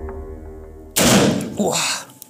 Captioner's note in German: Schuss